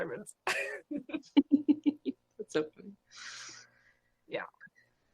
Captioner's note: both laugh